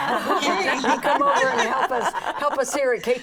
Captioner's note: laughing